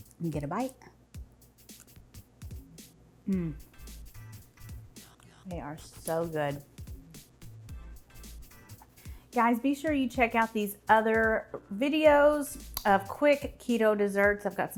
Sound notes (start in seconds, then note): 1.7 upbeat music; 3.3 moans